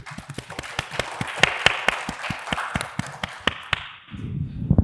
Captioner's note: audience applauding